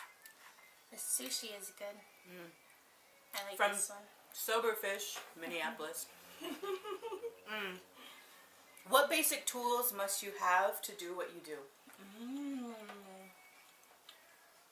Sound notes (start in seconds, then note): 6.4 laughing